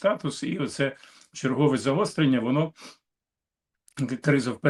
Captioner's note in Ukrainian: сопіння